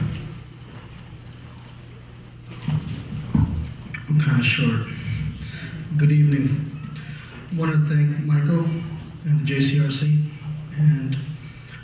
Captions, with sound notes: - I'm kind of short (laughs). Good evening. I want to thank Michael, and the JCRC.